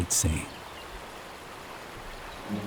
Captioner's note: water cascades